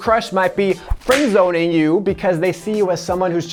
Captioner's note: whip cracks